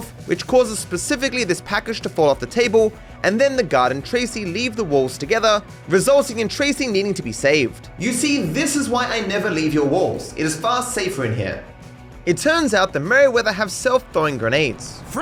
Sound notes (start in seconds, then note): 8.0 echoey voice